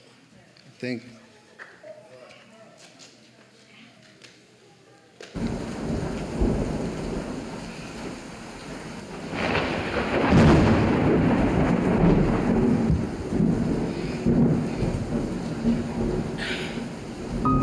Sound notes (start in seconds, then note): 5.3 storm sounds; 17.4 soft music plays